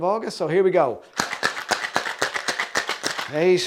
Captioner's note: shaker clanking